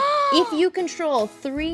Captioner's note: gasps